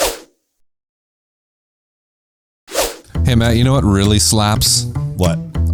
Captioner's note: whooshing